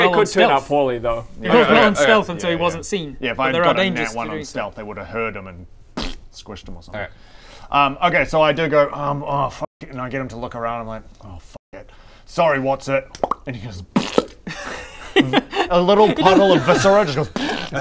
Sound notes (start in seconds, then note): 13.1 pop; 13.9 pffpft; 17.3 pfpffff